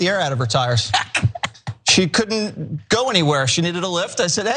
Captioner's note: laugh